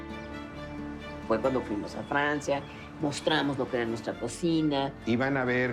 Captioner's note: woman 1 in Spanish